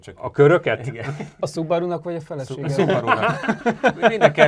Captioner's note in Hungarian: nevetés